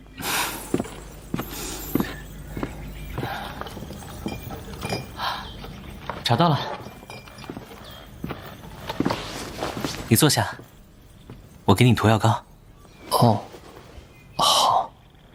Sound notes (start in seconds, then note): 9.1 walking over